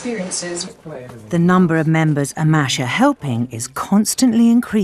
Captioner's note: voiceover